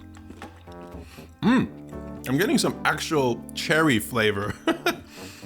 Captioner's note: laughs